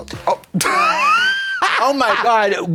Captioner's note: Trixie cackles